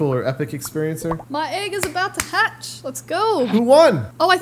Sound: clapping

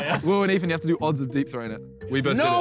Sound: laughter

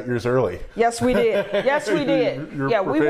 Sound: laughs

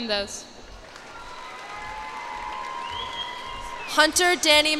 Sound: cheers and applause

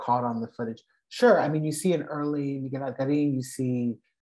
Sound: non-english speech

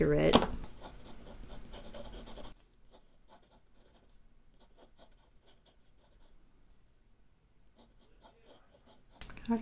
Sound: pencil scratching on paper

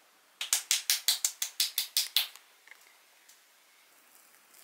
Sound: claps!

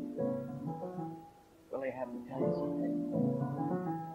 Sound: spoken, quietly

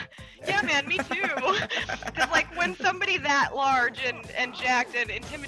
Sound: laugh

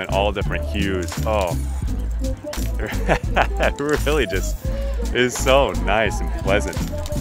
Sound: laughter

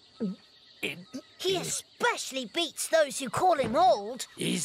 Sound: chuckles

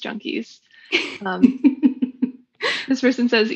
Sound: laughs

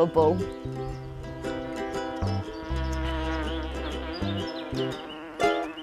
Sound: upbeat music; buzzing

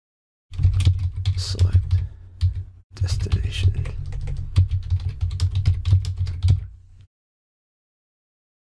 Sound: typing

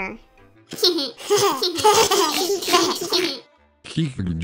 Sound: giggle

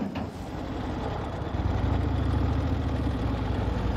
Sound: engine rumbles

